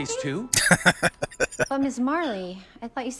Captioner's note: laughing